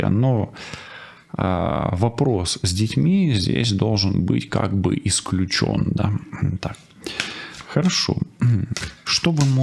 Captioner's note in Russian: откашливается